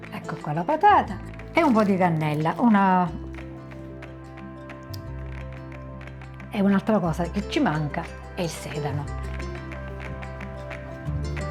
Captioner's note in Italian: Applauso